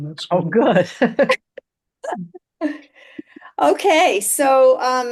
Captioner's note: laughter